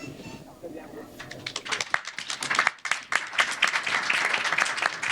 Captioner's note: applause